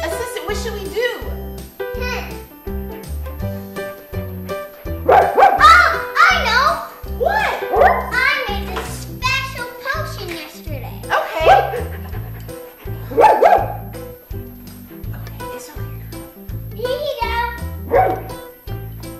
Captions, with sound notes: - Assistant, what should we do? (Gorilla barking) - I know. - What? - I made this special potion yesterday. - Okay. - Here you go.